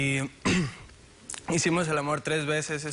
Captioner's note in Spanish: Carraspea